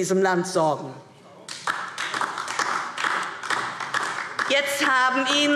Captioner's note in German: Beifall DIE LINKE